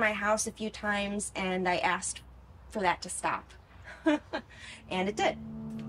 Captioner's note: chuckles